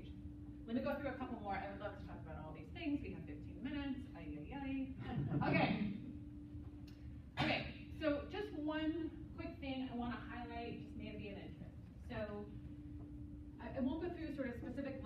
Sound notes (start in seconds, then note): 5.0 laughter